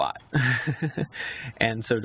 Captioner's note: laughs